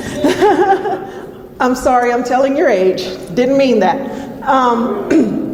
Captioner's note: laughs